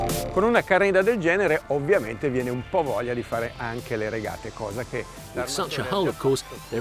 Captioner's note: speaking in foreign language